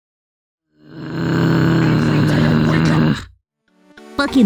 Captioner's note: loud, Annoyed Groan